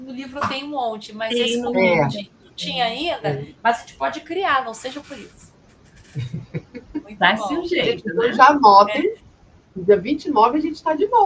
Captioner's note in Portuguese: risadas